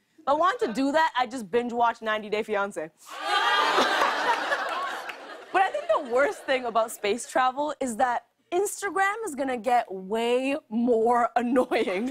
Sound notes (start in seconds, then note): 3.0 audience ohs; 3.1 laughter